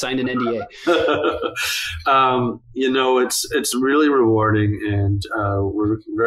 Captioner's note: laughs